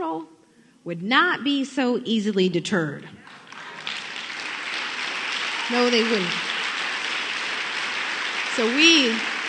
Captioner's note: applause